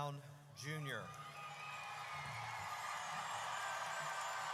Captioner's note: audience cheers